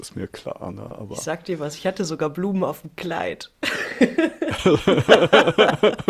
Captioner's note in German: gelächter